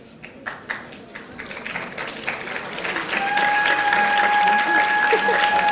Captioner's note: audience applauding